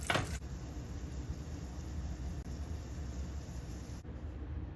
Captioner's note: tiny sizzle asmr